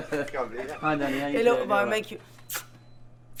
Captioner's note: laughter; smooches